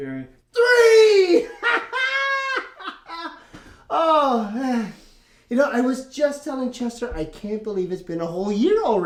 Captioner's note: laughs